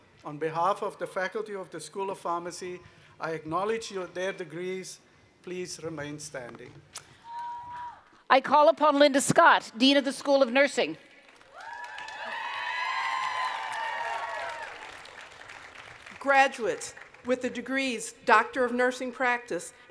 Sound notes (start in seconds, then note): 11.2 cheering and Applause